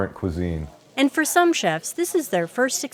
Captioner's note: voiceover